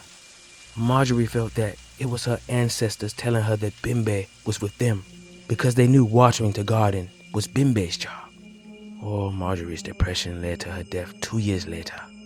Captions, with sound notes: Marjorie felt that it was her ancestors telling her that Bembe was with them because they knew watching the garden was Bembe's job. [rain ceases] Oh, Marjori's depression led to her [eerie music playing] death two years later.